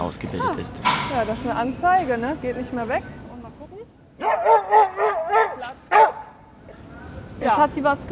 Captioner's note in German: Hund bellt